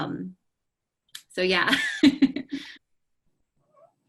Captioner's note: laughs